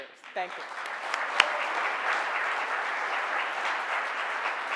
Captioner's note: audience applauds